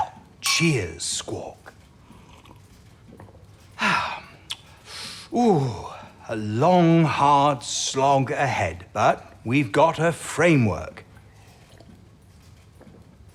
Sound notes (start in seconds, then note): 0.0 glasses chink, he pours wine, clinks the glasses together; 9.1 he takes another slurp of wine